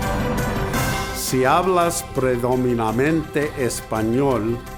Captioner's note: upbeat music; foreign language